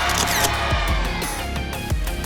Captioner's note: camera shutter